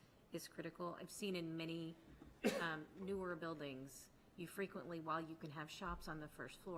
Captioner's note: clears throat